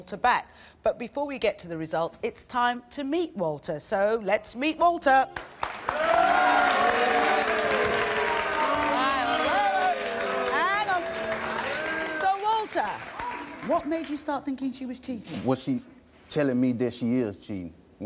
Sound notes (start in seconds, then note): 5.3 applause; 5.9 booing